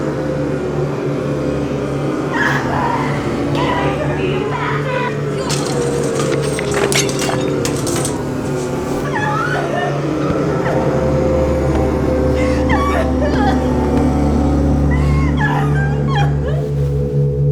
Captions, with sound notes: [shouting] Get away from me, you bastard! [screaming] [sobbing]